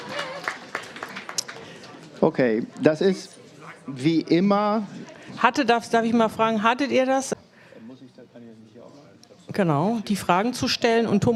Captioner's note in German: applaus